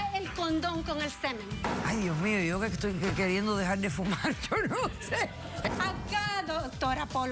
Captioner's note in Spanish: risas